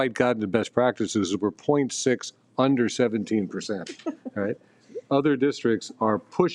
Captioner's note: person laughing